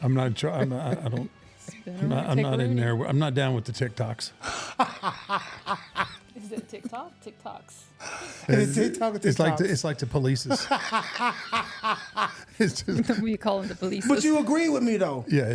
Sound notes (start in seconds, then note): 4.5 laughing; 10.5 laughing